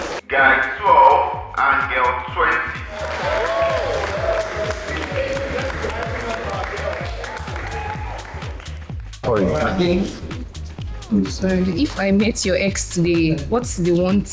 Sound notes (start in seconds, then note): 4.6 cheering